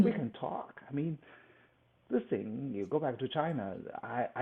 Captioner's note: laughs